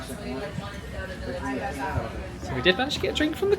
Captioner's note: crowd chattering